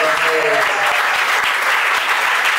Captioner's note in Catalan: aplaudiments